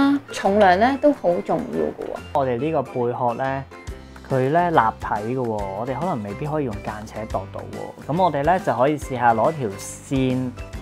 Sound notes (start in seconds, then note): none